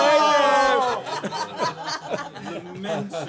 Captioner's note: laughter